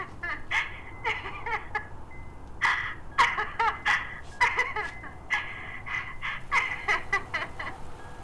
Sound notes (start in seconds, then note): 2.6 recorded laughter intensifies